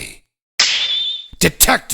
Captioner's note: snap!